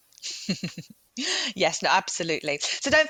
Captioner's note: laughs